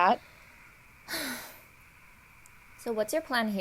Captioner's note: PAULINE sighs